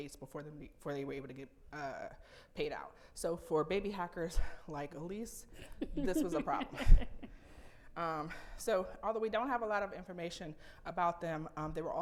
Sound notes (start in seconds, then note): 7.3 laughing